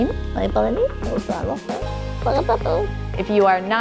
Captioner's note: mumbling to the dog